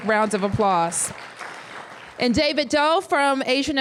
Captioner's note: applause